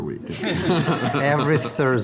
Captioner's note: everyone laughing